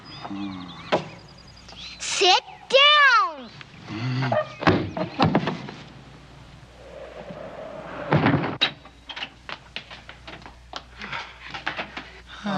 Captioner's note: monster hits see-saw